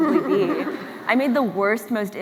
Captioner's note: laughs